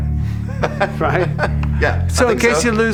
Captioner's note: laughing